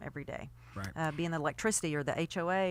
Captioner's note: voiceover